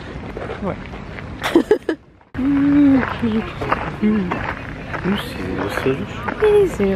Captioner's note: laughs